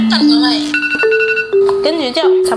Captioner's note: timer beeps